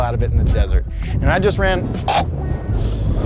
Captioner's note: coughs